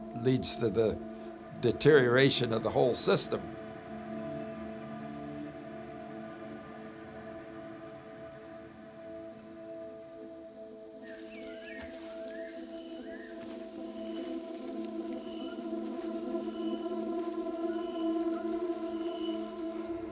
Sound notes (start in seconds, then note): 11.1 birds chirping